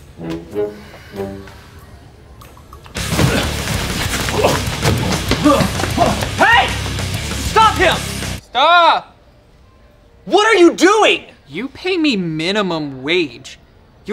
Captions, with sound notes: (upbeat music) (man grunting) - Hey! Stop him! - Stop. - What are you doing? - You pay me minimum wage.